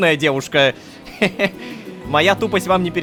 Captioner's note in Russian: Кхе-хе